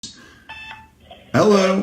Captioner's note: electronic beep sounds